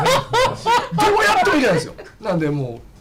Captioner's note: laughs